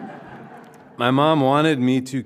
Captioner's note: crowd laughing